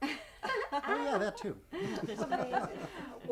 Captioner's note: laughing